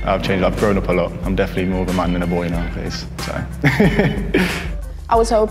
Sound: laughs

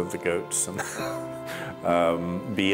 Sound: laughs

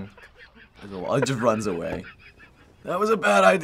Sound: in video: snickering

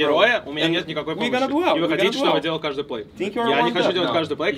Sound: players speaking in Russian; DM speaking in Russian

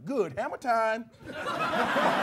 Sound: laughter and clapping

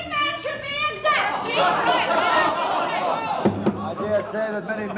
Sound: shouting

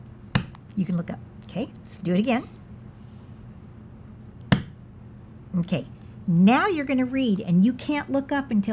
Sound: pounds fist; pounds fist

